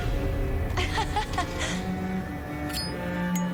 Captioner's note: sinister music; laughing